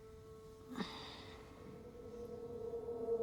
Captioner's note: Liz sighs; tense unsettling music